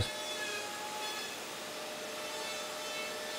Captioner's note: Ferne Maschinengeräusche